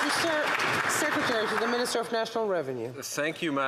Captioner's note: some Applause